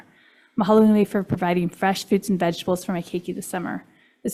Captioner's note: foreign language